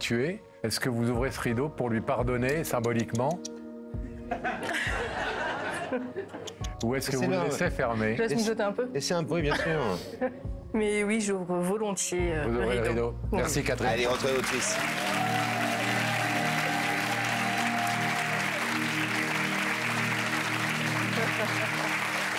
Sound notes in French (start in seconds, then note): 4.2 Rires; 16.1 Applaudissements; 19.1 Rires; 22.1 Applaudissements